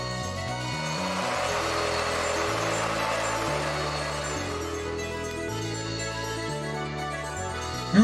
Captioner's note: arena audience cheering